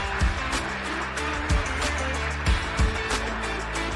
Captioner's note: applause